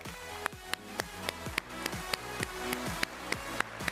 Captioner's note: exciting upbeat music; all applaud